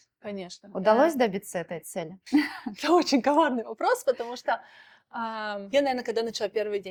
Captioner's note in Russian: смех